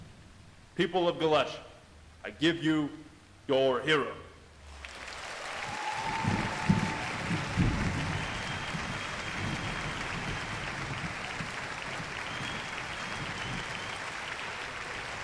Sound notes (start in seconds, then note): 5.2 crowd cheering; 12.2 crowd applauding